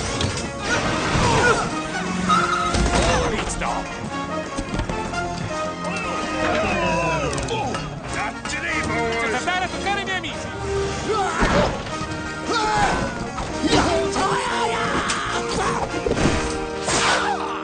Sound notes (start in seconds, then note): 9.2 speaking spanish; 12.2 yells